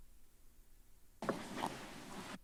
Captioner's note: rustles